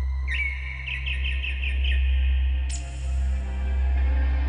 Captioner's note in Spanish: Canto de un pájaro